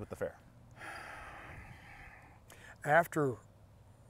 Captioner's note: sighs